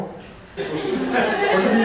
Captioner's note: laughter